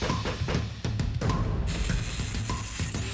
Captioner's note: whirring